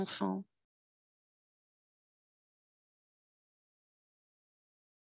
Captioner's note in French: silence